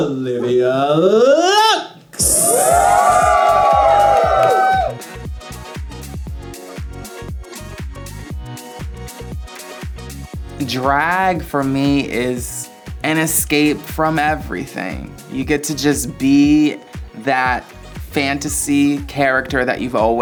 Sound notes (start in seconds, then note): 2.2 cheering